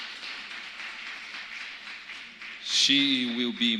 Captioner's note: applause